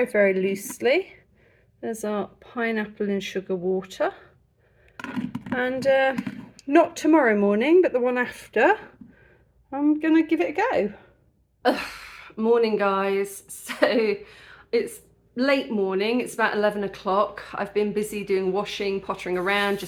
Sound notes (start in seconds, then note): 11.9 sigh